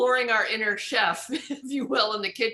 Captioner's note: giggles